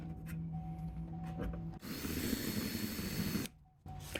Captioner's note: drilling